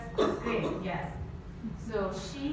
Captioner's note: audience member coughs